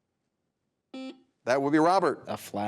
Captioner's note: buzzer buzzes